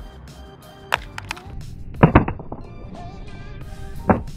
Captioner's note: phone clatters